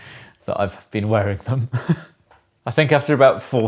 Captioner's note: laughs